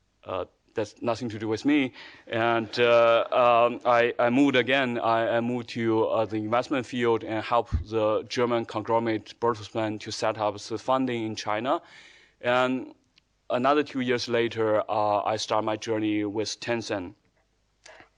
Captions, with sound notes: that's nothing to do with me, (audience laughing) and I moved again, I moved to the investment field and helped the German conglomerate Bertelsmann to set up the funding in China. Another two years later, I start my journey with Tencent.